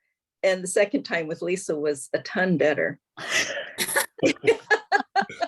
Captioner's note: laughs